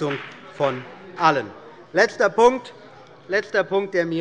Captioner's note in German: Beifall bei dem BÜNDNIS 90/DIE GRÜNEN sowie bei Abgeordneten der CDU und der SPD